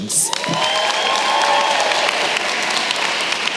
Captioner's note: applause